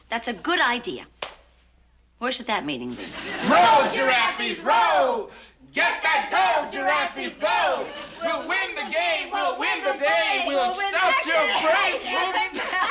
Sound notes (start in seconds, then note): 5.6 chanting